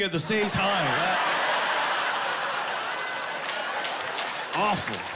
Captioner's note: laughing